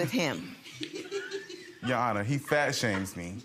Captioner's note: audience members laughing